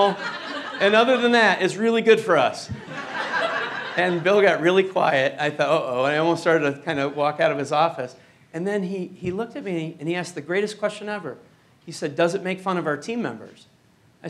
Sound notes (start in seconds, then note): 2.7 laughter